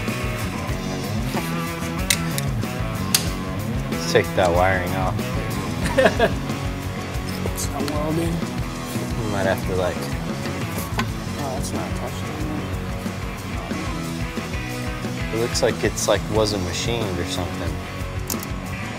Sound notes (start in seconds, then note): 5.8 laughter